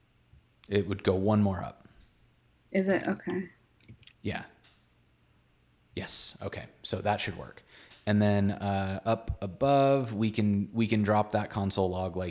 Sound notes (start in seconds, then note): none